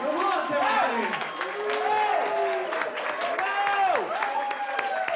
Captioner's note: crowd cheering